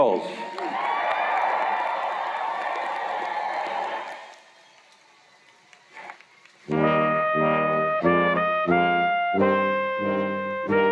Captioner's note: cheers and Applause